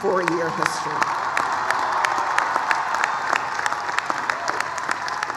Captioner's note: applause, cheering